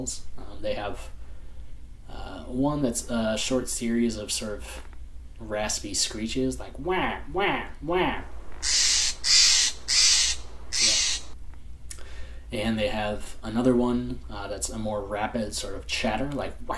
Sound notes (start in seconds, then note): 8.6 bird call plays